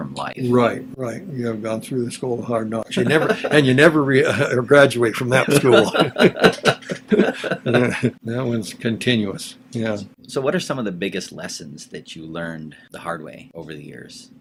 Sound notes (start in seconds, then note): 5.2 laughs; 5.3 both laughs